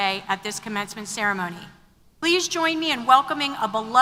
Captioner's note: none